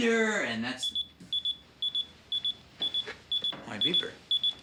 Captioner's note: beeper beeps